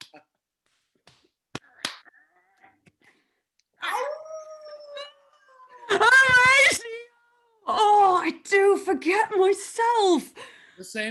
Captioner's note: Laughter, Horatio howls